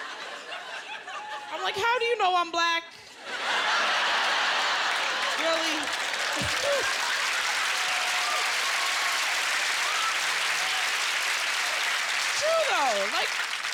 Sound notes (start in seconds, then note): 0.1 laughter; 4.2 cheers and applause